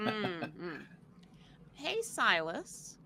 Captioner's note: laughing